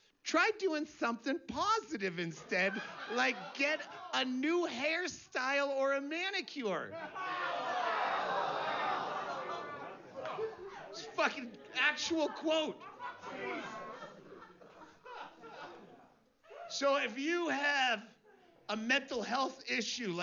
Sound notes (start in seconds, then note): 6.9 risas, gemidos